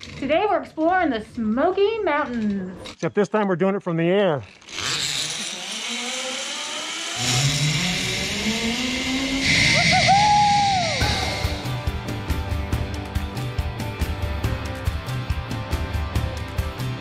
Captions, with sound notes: - Today, we're exploring the Smoky Mountains. - Except this time, we're doing it from the air. (wire line zipping) Woo hoo hoo! (energetic music)